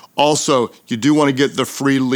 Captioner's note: none